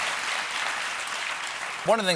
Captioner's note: applause